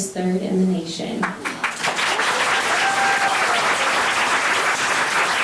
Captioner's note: members clapping